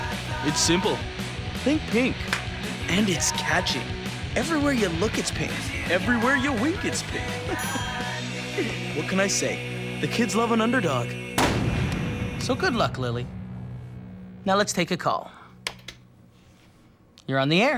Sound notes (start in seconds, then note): 8.4 laughs; 11.4 loud pop; 15.8 clicks